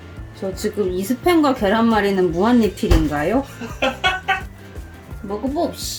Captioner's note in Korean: 민망한 웃음